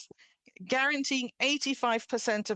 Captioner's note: speaking French